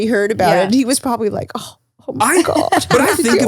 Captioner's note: groans